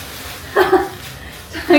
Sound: laughing

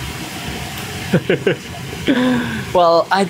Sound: chuckles

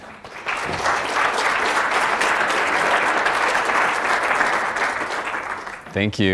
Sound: applause

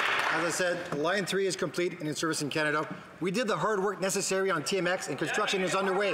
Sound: some Applause

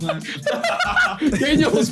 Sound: Ethan and Josh laughing

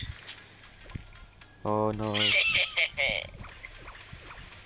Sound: cool guy laugh

